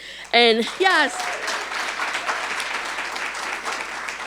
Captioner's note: audience applauding